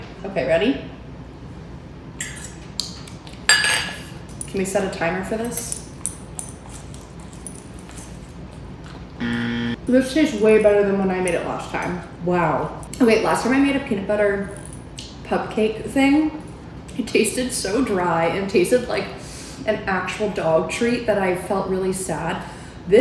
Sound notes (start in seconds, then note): 9.2 timer buzzing